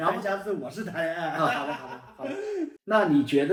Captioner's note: laughing out loud